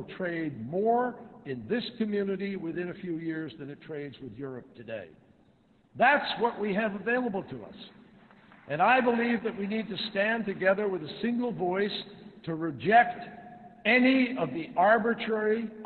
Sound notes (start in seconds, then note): 8.4 applause